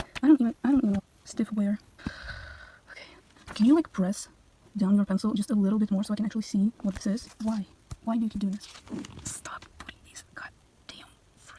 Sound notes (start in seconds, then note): 2.0 sigh